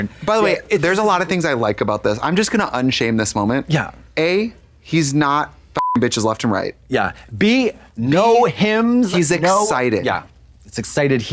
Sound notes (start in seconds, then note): 5.8 beep